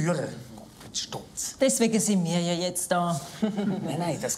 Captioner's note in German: Kichernd